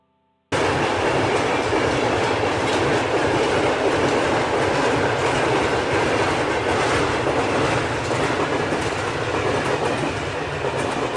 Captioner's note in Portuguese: barulho do trem passando